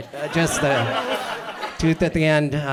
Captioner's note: audience laughs